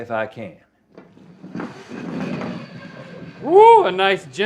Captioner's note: puck sliding